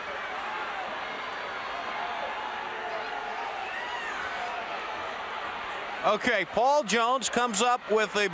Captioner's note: crowd cheering